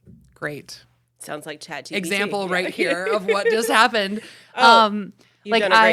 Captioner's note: laughs